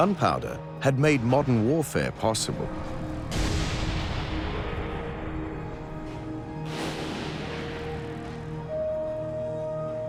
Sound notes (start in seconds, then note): 3.3 cannon booms; 6.6 gunshot